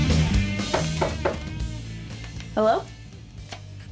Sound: knocking

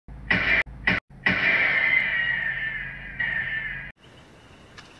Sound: gun shots echoing

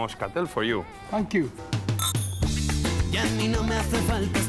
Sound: glasses clinking

